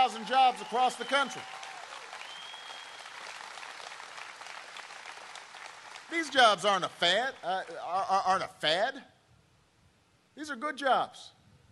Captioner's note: cheering and applause